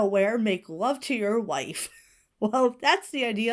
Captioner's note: Hana wheezes